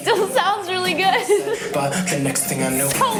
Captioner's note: laughing